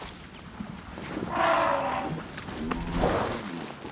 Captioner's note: trumpeting and chuffing